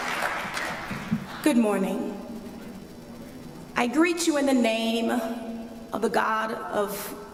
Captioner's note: applause